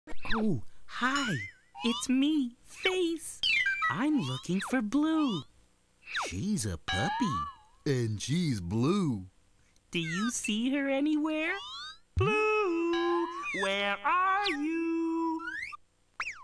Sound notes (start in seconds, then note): 0.7 in hushed voice